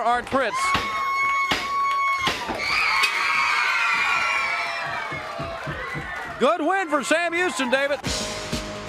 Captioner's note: crowd cheering